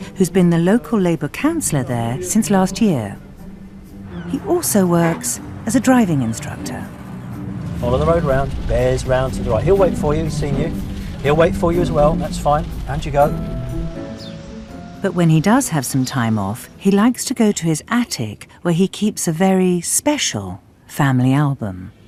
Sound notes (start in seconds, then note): 15.2 voiceover